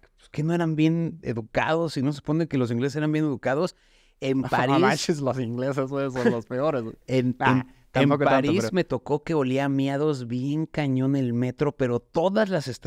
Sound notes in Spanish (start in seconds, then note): 6.1 risa